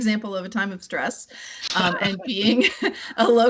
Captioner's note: laughter